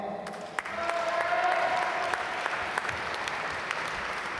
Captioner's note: applause